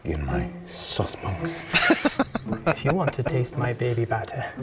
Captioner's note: laughing